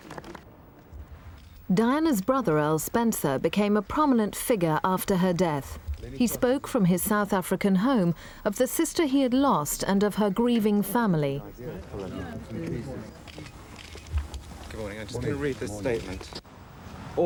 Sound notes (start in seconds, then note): 13.2 camera shutter clicking